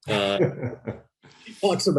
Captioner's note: laughs